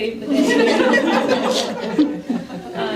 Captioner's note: laughter